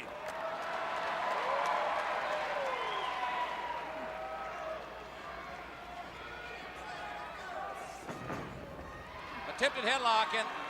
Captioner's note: crowd cheering